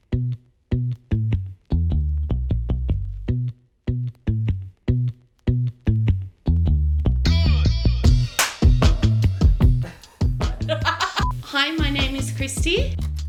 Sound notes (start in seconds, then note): 8.2 hands clapping; 10.6 laughing